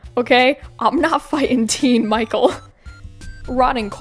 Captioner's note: laughs